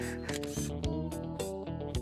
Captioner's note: camer click